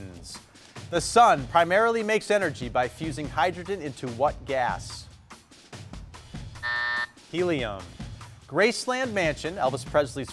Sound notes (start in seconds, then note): 6.6 buzzer buzzing